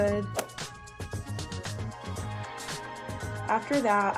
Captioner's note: text whooshes and clicks